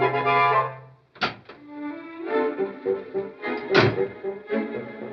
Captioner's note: door opens and shuts